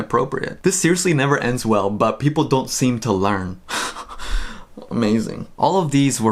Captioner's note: laughs